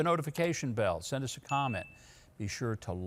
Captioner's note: bell ringing